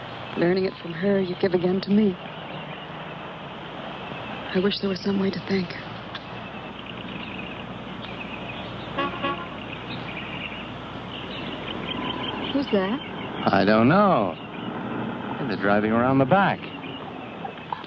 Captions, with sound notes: Learning it from her, you give again to me. I wish there was some way to thank her. (horn honks) - Who's that? - I don't know. And they're driving around the back.